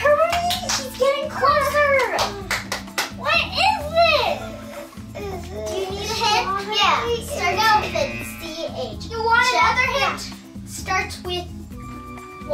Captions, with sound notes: Hurry, he's getting closer! [Clapping] What is this? Do you need a hint? Yeah. Strawberries? [Buzzer] It starts out with a "C-H." You want another hint? Yeah. It starts with "Wat."